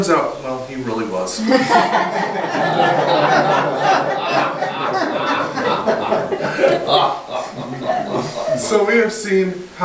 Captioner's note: audience hardy laughter